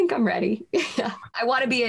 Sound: chuckles

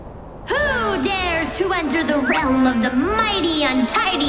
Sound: none

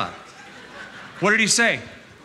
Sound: laughter

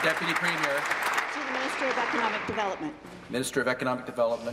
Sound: applause

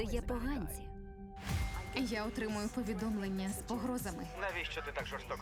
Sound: message alerts

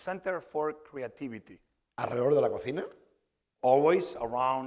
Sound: speaking spanish

